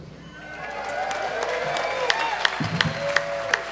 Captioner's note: applause and cheering